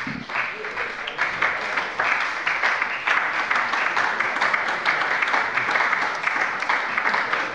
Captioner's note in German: Beifall bei der SPD